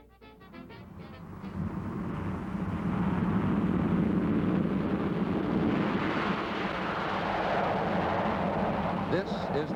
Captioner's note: loud Jet Plane Taking Off